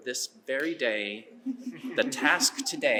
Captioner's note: laughter